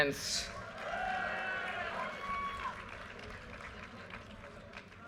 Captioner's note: audience cheers and applause